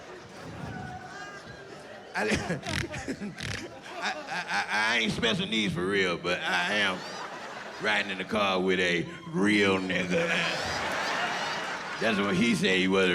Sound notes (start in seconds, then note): 3.8 laughs